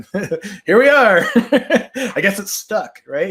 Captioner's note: chuckles